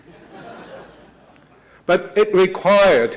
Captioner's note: laughing